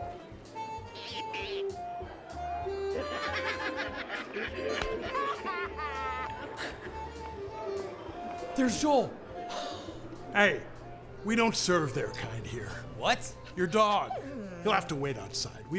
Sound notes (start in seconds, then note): 2.6 laugh